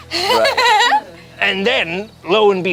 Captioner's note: group laughs